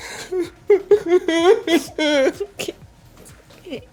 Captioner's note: both sobbing